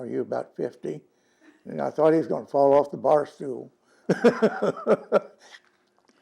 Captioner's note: laughs